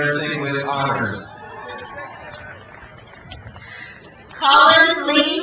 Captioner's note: crowd cheers